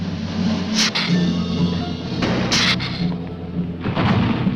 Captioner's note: lizard hissing; ground rumbling